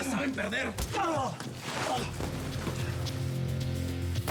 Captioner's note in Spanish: quejidos